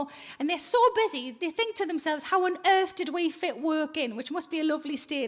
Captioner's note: none